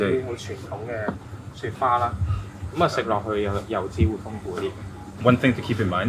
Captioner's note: speaking in foreign language; chef 2 speaking in foreign language